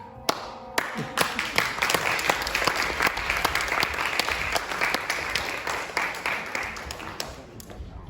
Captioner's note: applause